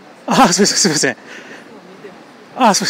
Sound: laughs

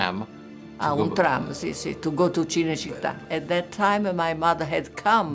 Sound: speaking in Italian

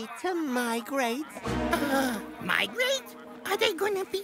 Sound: Buzz gasping

